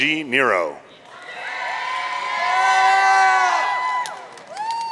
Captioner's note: audience cheering